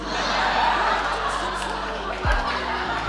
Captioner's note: laughter